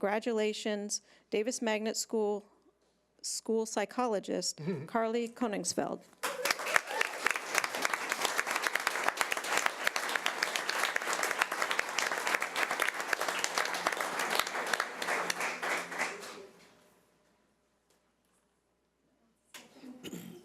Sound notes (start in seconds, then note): 7.1 audience applause